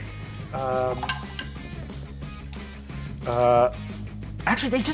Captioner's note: dice rolls